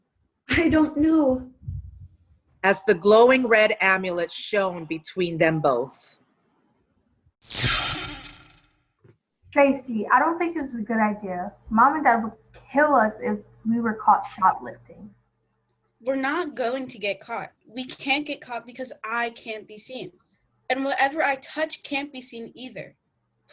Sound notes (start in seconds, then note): 7.4 zap